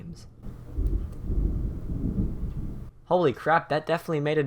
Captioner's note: thunder rumbles